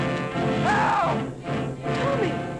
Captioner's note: bat shrieking; Tommy shouts